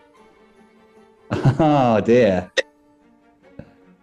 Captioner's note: chuckles